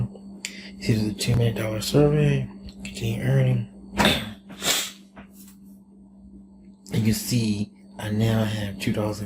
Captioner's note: coughs